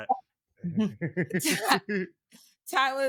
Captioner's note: laughing